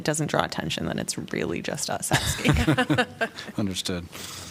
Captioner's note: laughter